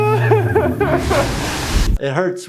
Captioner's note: liquid splashing